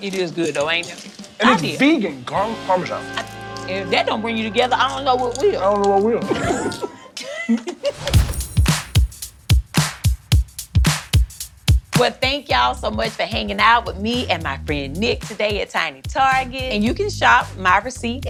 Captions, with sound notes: - It is good though, ain't it? - And it's vegan Garlic Parmesan. - If that don't bring you together, I don't know what will. - I don't know what will. (both laugh) (energetic music) - Well, thank y'all so much for hanging out with me and my friend Nic today at Tiny Target, and you can shop my receipt-